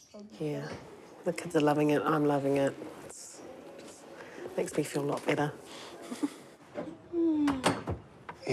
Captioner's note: chuckles